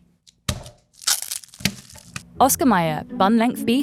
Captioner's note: package thunks; plastic rustling